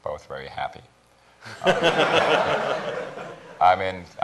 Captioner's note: laughter